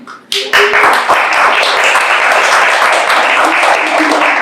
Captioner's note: everyone applauding